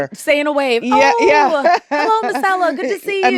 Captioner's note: laughs